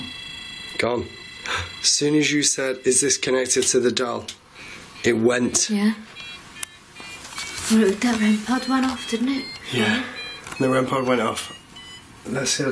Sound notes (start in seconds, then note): 8.7 device beeps in melody